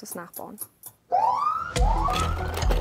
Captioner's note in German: kurzer Sirenenton